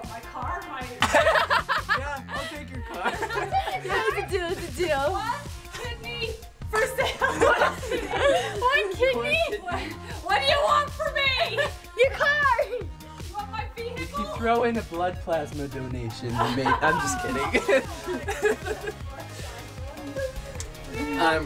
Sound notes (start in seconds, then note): 1.0 laughs